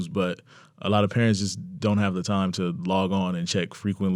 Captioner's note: none